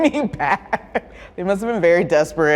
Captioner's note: laughs